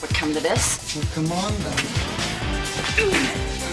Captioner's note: grunting